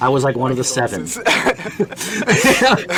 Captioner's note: laughing